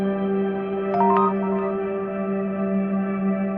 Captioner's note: soft music; text sound; soft music